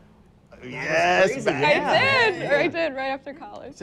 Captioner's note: laughs